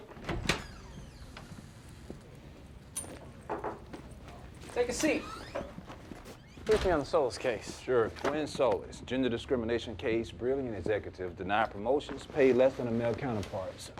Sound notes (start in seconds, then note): 3.0 knock on the door